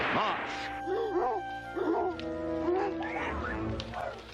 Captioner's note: whip cracks; dogs barking; dog whimpers